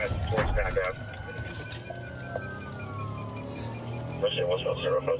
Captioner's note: sirens wailing